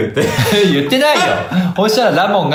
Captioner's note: laughs